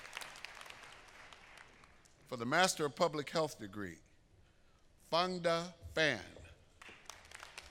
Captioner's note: applause